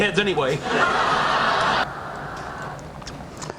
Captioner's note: laughing